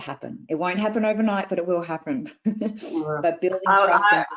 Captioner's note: laughs